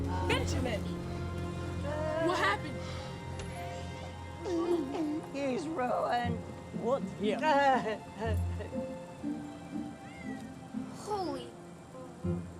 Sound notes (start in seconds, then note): 4.3 sobbing